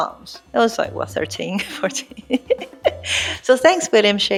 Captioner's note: laughs